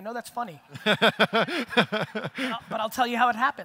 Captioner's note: audience laughter